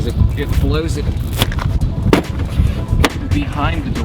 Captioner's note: bangs on door